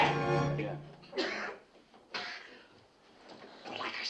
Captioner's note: coughing